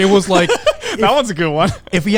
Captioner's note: laughing